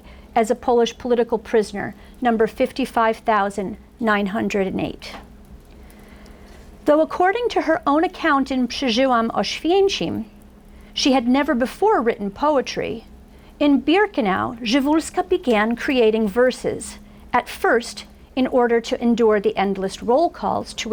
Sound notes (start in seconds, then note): 8.8 foreign language